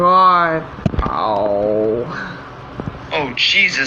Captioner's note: groaning